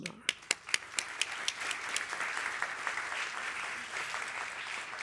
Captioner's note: applause